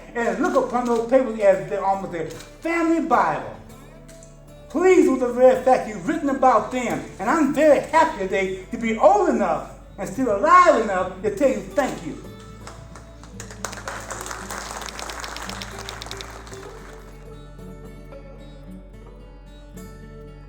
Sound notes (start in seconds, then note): 11.9 applause; 15.4 typewriter sounds